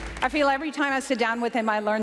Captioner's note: applause